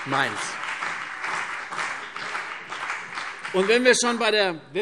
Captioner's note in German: Beifall CDU und BÜNDNIS 90/DIE GRÜNEN